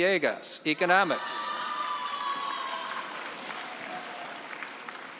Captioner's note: cheering and applause